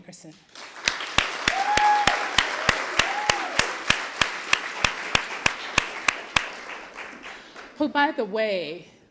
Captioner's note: applause